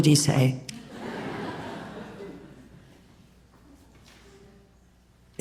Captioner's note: audience laughs